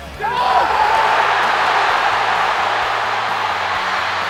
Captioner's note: fans cheering